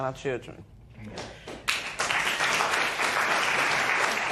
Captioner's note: applause